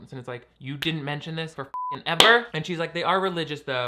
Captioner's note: beep